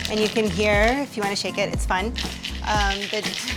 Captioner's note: beans rattling